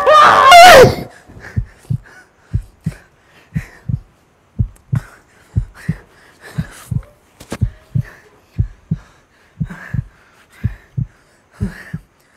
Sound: heartbeat sound

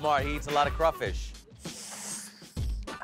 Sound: making sucking sounds

